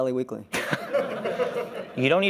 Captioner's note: laughter